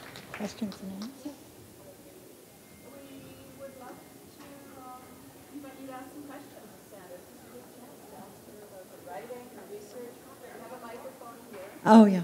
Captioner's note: applause